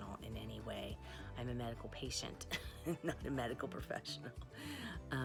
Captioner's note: laughs